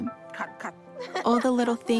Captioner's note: both laugh